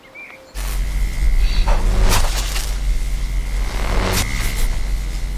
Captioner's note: electricity buzzing